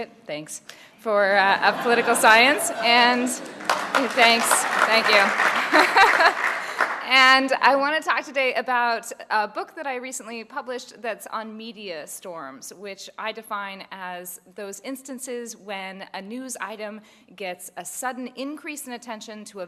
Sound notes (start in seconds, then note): 1.5 laugh; 2.8 applause; 4.4 laugh